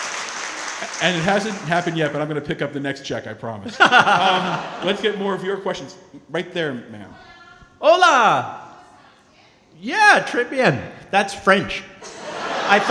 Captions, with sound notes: - And it hasn't happened yet, but I'm gonna pick up the next check, I promise. Let's get more of your questions, right there, ma'am. (speaking foreign language) - Yeah, (speaking foreign language) that's French.